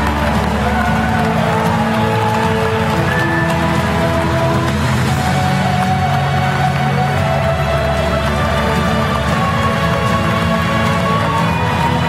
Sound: applause

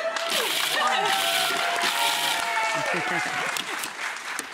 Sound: audience claps and cheers

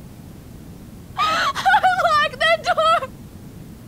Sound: crying

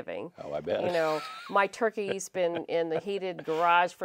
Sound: laughs

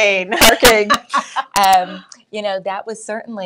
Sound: chuckling

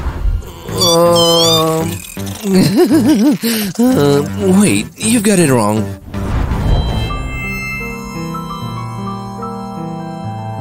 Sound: nervous laughter

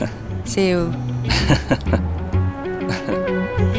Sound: laughing

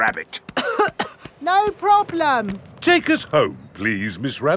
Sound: coughing

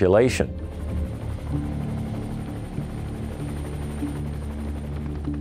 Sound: helicopter blades whirring

